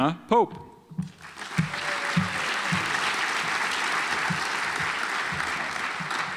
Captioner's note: audience applauds